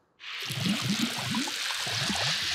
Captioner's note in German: Rauschen